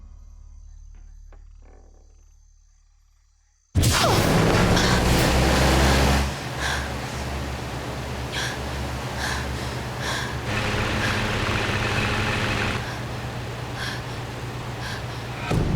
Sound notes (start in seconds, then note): 2.4 fans whirring; 4.4 heavy breathing